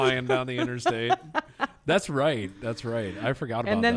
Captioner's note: laughs